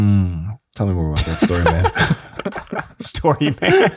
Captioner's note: hums